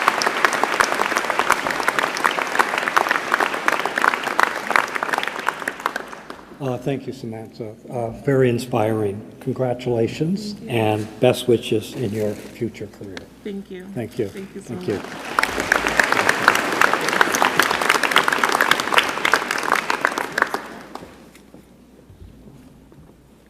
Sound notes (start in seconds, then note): 5.8 applause; 18.8 applause